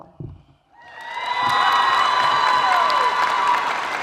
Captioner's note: applause